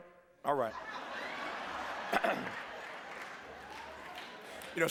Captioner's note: laughter